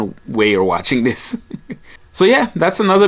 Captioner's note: laughing